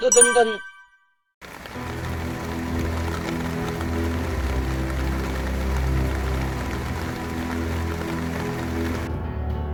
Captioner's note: clapping